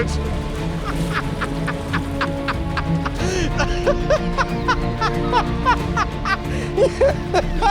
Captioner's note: richard laughs